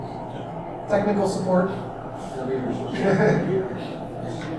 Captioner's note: audience laughs